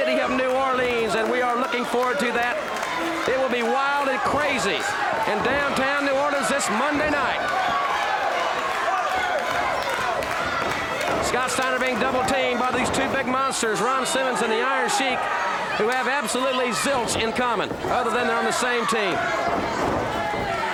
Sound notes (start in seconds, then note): 10.7 audience clapping